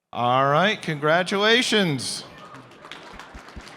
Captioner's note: applause